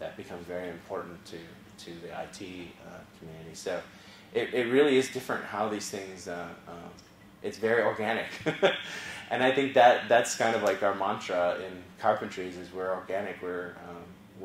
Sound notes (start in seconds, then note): 8.4 laugh